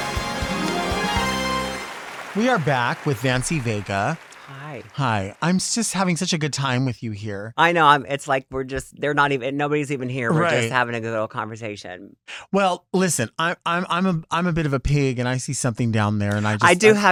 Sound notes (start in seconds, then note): 0.0 audience applauds